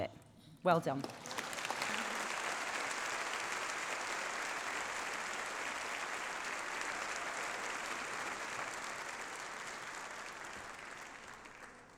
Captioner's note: applause